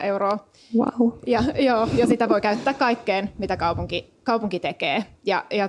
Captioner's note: laughs